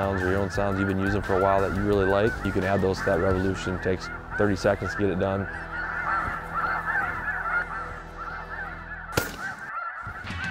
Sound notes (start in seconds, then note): 5.6 goose calls; 9.1 gun shot